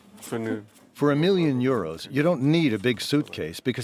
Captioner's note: through translator